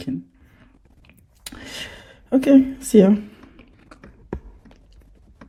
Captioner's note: chewing